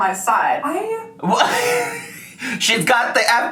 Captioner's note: laughing